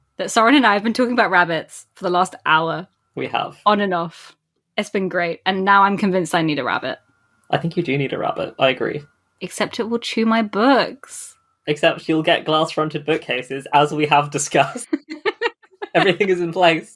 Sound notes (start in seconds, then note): 14.4 laughs